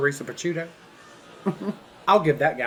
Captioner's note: chuckles